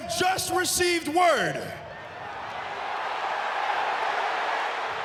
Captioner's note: crowd cheers